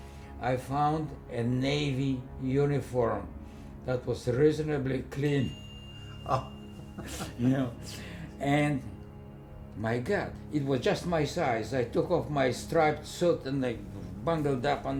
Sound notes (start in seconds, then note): 6.7 laughing